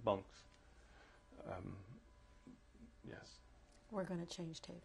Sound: pauses for 3 seconds

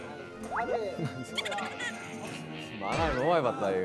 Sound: kek heh

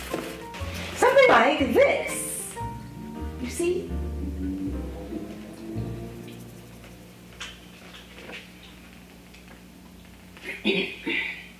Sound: eating air like a pig, teeth sucking, and burping

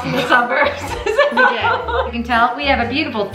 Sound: laughs

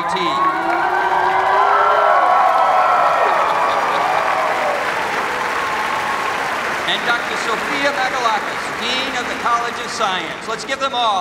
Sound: cheers and applause

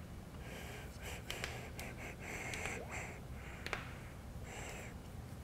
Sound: keyboard and mouse clicks

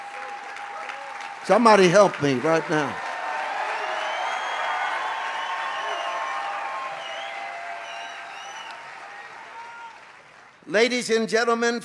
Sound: audience cheers

